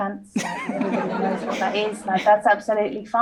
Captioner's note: audience laughs